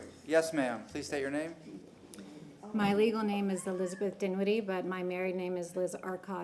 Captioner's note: sounding gavel